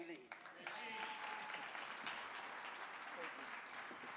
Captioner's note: audience clapping